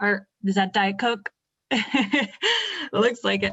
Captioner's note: laughing